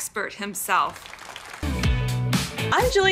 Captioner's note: clapping